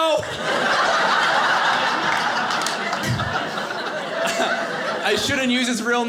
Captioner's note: audience laughing